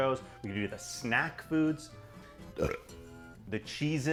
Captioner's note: burping